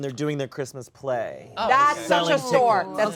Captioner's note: collective oohs